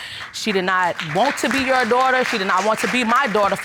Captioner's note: audience applauding